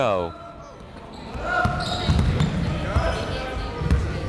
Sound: chatter

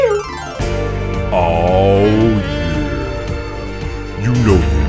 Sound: steamy music; sexy voice

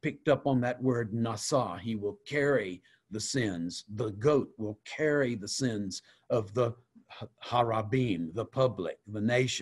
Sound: Hebrew

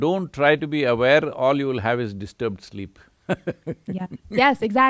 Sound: laughs

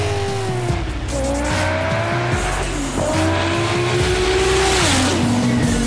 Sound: car engine revving; car engine roaring

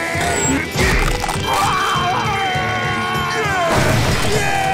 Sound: screaming; cheering

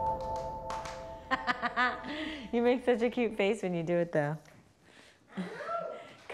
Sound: clapping; laughing

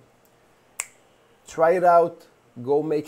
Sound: snaps

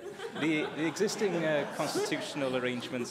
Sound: laughter

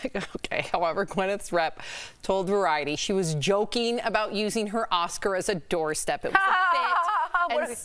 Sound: laughter

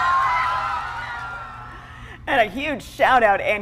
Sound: cheers a applause

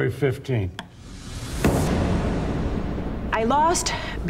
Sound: gavel banging

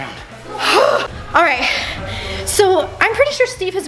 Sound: sighing

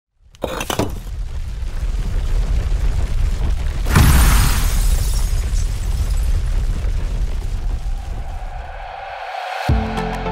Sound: earthquake and shattering glass sounds can be heard

